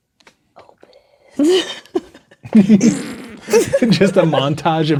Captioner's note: laughing